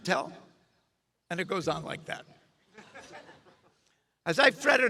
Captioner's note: audience chuckles